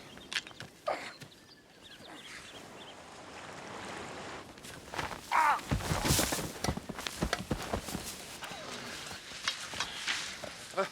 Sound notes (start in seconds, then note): 5.3 John yelping